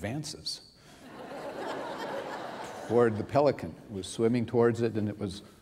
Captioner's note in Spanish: risas